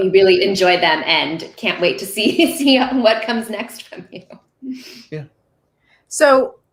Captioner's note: laughing